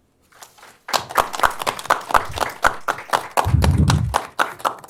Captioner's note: applause